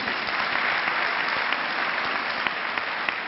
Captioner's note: clapping